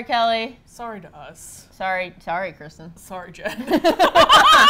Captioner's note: both laugh